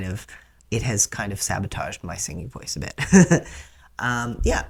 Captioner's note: laugh